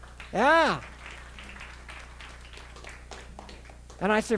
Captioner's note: crowd applauds